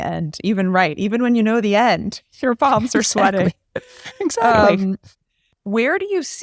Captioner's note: laugh